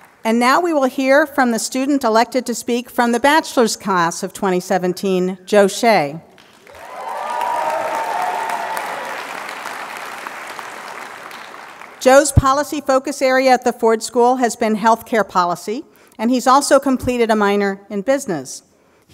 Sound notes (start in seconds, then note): 6.3 applause